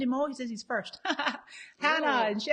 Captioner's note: laughs